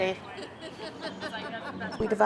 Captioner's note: laughter